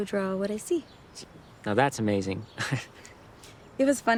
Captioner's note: chuckles